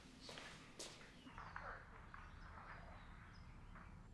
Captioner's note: footsteps